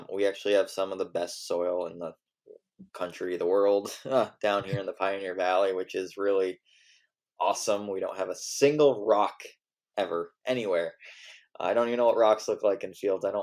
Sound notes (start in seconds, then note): 4.5 laughs